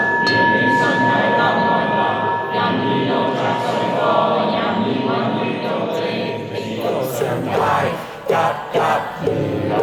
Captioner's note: chanting